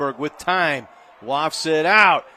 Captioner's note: applause